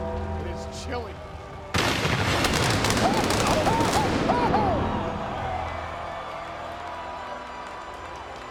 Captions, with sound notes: It's chilling. (thunder booms) (Michael and Taz yelp)